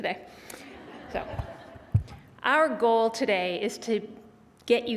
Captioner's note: laughter